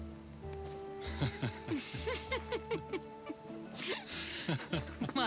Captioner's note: laughing